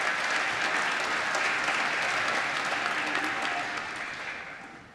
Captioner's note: applause